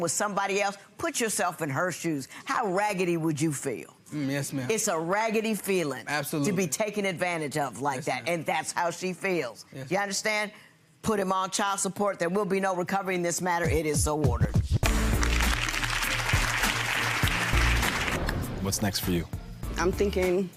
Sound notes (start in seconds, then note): 14.8 audience applauding